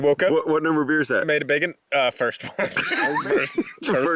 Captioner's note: laughs